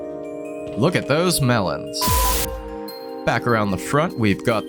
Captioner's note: static, beep